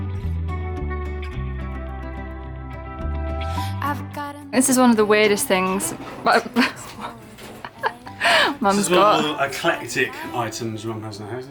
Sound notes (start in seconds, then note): 7.4 laughs